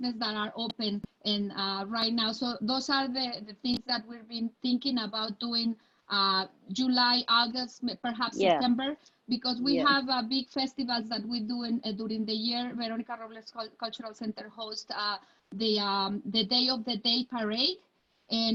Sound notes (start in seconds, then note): none